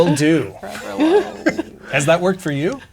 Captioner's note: players laughing